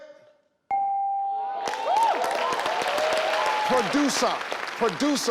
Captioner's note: bell chimes